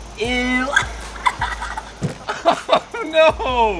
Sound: laughing

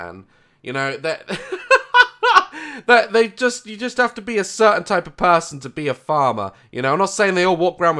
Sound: laugh

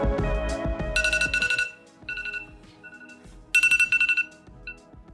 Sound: phone alarm beeping

